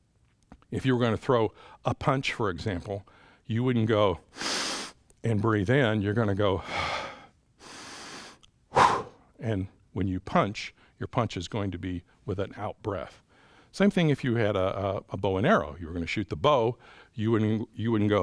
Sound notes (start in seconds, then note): 4.3 inhales; 7.6 exhales; 8.7 inhales; 16.8 inhales